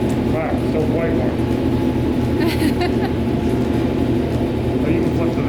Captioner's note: laughs